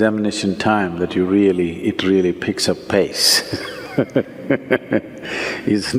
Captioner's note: laughs